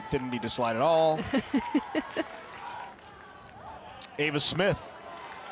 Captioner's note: chuckles